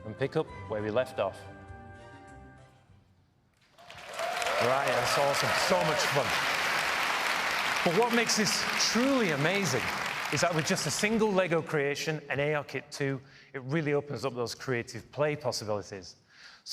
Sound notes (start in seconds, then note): 3.7 applause